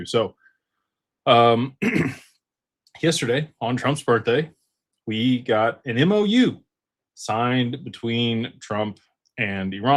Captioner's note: clears throat